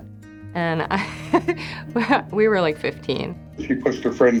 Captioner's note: chuckles